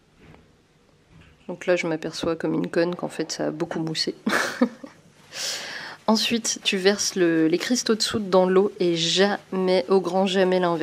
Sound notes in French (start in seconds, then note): 4.2 rires